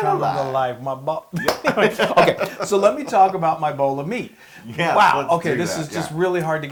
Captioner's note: laugh